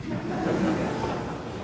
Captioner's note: laughter